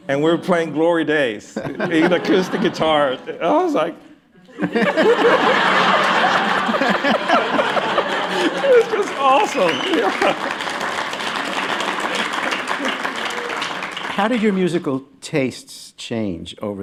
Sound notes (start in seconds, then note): 4.4 laughter; 10.4 applause